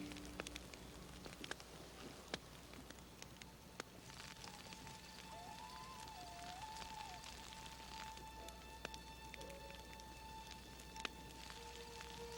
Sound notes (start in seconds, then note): 4.1 soft suspenseful music; 4.3 wolves howling